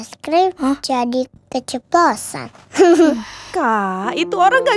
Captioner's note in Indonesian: tertawa